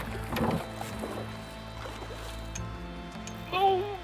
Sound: water rumbles

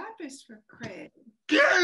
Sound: shouting towards the kitchen

